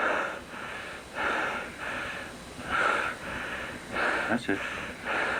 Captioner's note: heavy breathing